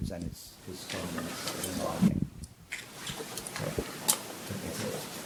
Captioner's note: microphone distorts